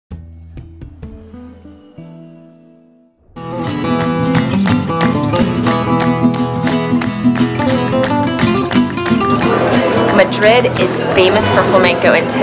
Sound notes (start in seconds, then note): 3.3 flamenco guitar; 3.8 clapping